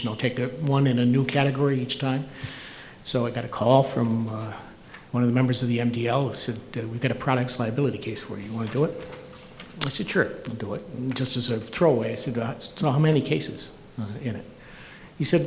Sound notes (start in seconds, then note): none